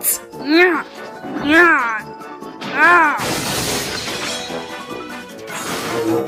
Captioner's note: Shogunyan struggles